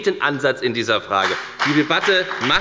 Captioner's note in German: Beifall bei der FDP